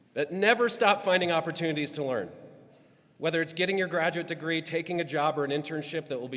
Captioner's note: none